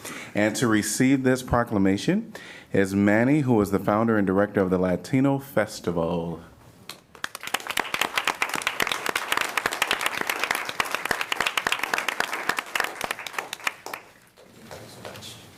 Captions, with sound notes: And to receive this proclamation is Manny, who is the founder and director of the Latino Festival. [APPLAUSE]